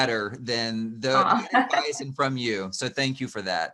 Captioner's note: laughing